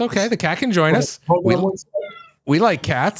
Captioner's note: meowing